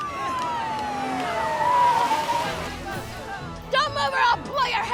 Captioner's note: sirens blaring